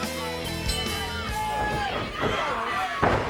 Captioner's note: bell ringing; footsteps plodding; body thudding